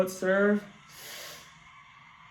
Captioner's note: whizzes